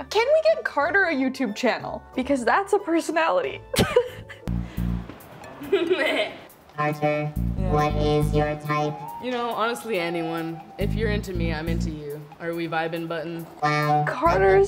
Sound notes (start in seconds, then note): 5.5 laughs; 5.6 laughing